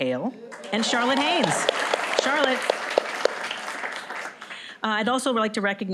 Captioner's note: applause